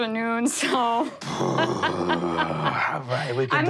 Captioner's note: all laughing